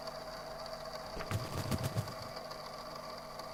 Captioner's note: feathers ruffle